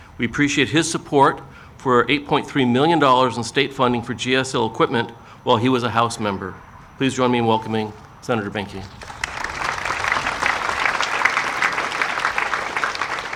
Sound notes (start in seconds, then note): 8.8 audience applauding